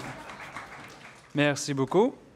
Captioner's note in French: applaudissements